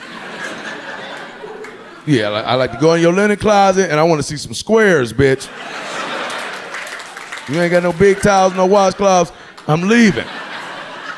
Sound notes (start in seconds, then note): 0.0 audience laughing; 5.5 audience cheering